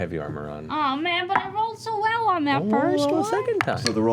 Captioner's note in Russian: высоким голосом